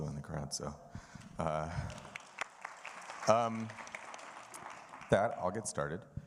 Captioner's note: audience applauding